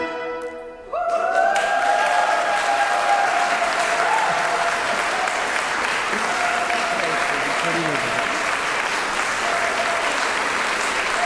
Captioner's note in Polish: aplauz